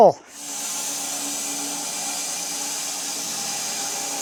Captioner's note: saw whirring